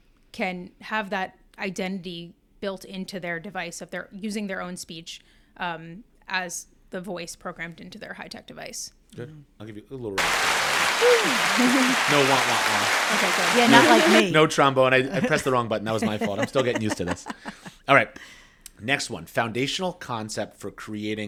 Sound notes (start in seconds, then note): 10.2 round of Applause plays